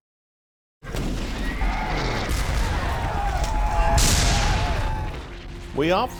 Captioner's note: guns blasting; soldiers screaming